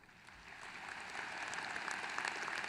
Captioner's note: applause